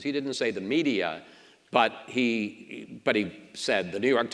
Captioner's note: none